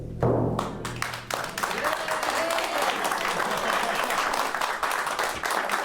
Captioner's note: applause